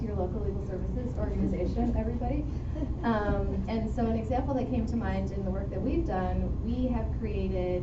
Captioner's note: chuckle